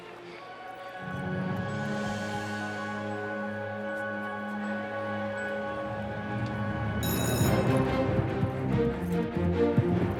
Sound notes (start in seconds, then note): 1.5 suspenseful music; 7.0 bell rings